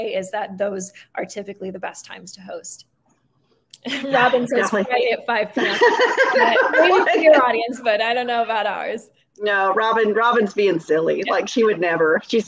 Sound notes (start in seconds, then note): 5.6 laughing